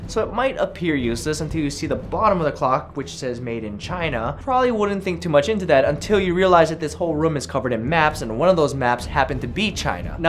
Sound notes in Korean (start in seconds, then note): none